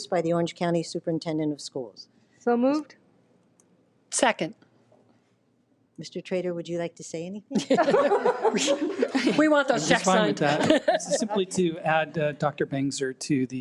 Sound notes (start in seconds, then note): 7.6 all laugh